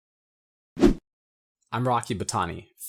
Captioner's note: air whooshing